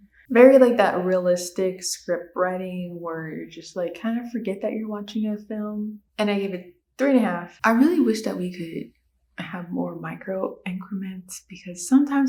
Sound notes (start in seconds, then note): none